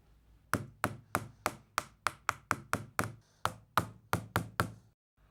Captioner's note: hammering